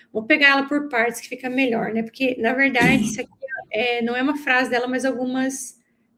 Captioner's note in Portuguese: limpando a garganta